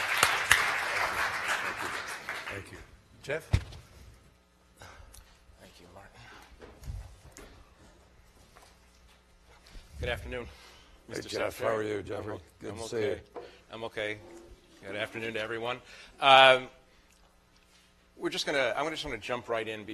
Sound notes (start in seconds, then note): 0.0 applause